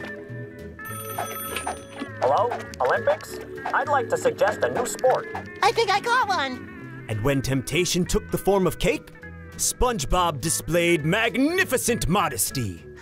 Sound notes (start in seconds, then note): 0.8 phone ringing